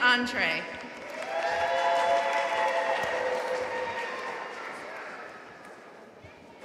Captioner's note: audience cheering and applauding